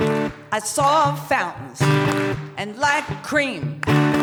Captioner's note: clap clap; clap clap